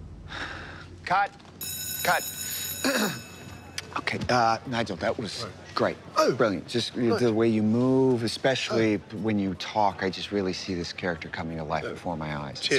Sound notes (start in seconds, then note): 1.6 bell ringing; 2.5 sighs; 2.8 clears throat